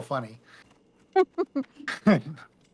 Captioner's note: laughs